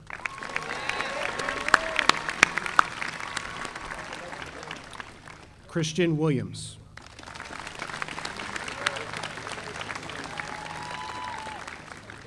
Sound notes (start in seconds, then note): 0.0 audience applauding; 7.0 audience applauding